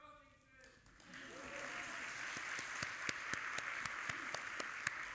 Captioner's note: audience applauding